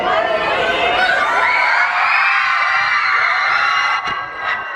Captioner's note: screams and cheers